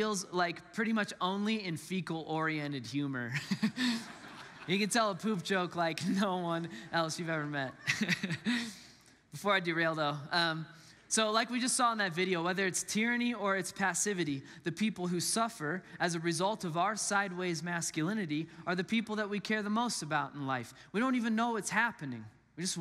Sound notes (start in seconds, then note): 3.3 congregants laughs; 3.4 laughs; 7.4 laughs